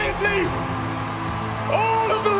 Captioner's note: crowd roars